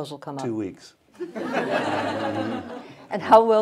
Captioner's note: laughter